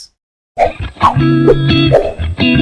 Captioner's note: gentle music; air whooshing